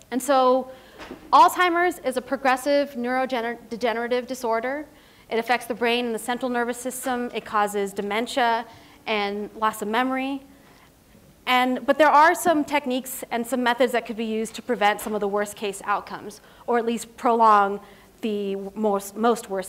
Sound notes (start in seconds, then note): none